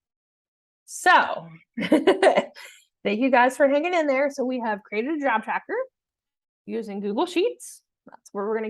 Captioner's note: laughter